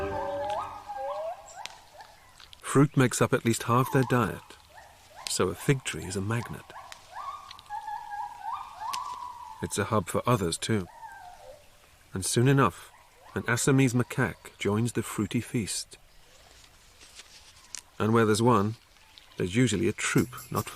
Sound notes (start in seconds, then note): 0.0 howling; 7.2 howling